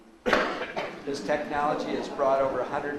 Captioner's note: audience laughs